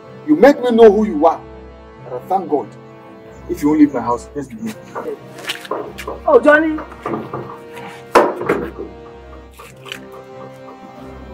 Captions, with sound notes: you made me know who you are and i thank God if you won't leave my house just be there oh Johnny [ DOOR CLOSE ]